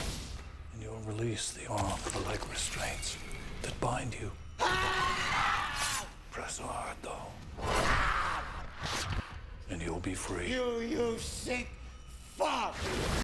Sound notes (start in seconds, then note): 4.6 screaming